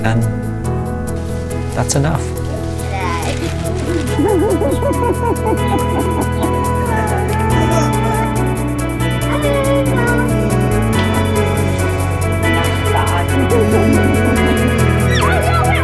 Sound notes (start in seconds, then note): 4.4 people chattering; 4.4 uplifting pop music